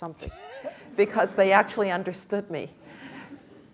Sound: laugh

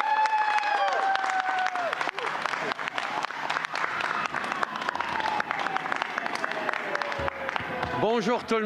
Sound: crowd chanting "boo"

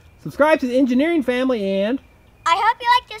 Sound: voiceover

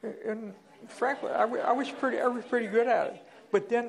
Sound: laughter

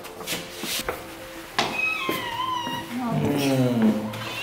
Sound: Raon cries

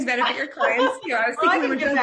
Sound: laughing

